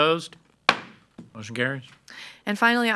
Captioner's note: gavel bangs